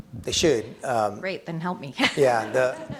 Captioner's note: chuckles